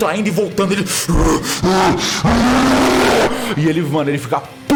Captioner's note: furious roar